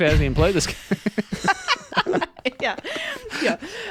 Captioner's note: laughing